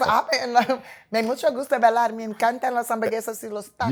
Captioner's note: speaking spanish